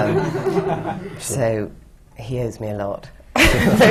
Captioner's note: laughter